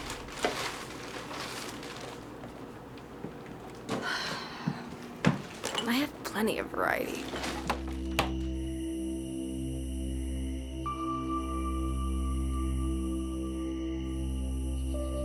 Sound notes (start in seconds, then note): 3.9 sighs; 10.6 insects chirping